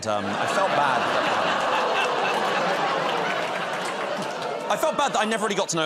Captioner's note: laughter